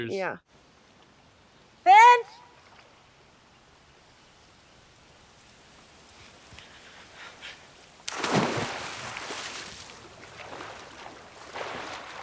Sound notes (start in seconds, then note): 5.6 wind rustling through trees; 8.0 splash